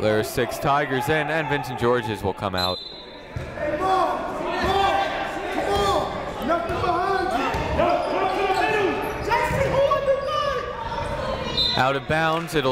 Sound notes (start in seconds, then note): 3.4 shouting; 8.3 shouting; 11.5 whistle blowing